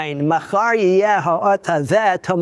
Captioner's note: speaking Hebrew